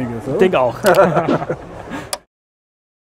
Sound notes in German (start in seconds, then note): 0.8 lachen